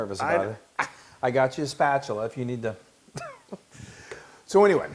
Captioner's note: laugh